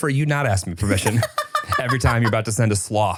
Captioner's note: laughs